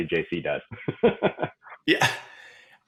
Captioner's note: laughing